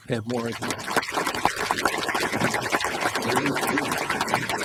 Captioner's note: applause